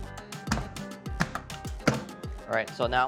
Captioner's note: mallet thuds